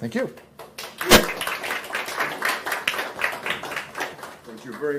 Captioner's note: applause